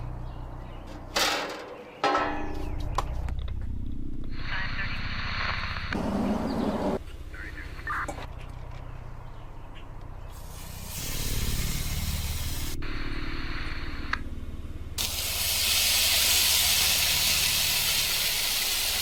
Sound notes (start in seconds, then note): 1.1 grill closing; 4.2 radio static running; 10.4 chicken sizzling; 12.7 radio static; 15.0 chicken sizzling continues